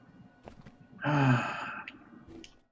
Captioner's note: sighs